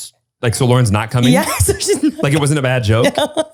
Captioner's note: laughing